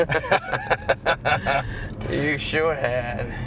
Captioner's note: laughing